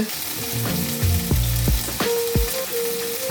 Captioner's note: pan sizzles